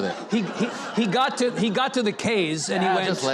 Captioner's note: audience laughing